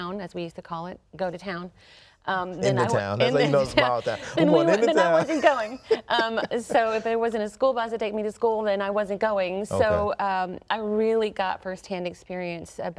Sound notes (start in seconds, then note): 3.8 chuckles; 6.4 laughs